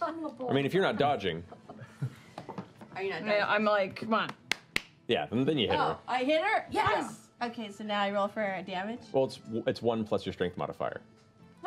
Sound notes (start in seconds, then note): 4.3 smacks her arm